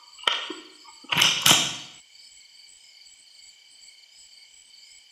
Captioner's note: tripod creaking; brush rustling